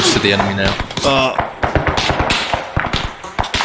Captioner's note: groans